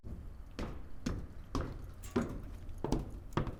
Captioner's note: footsteps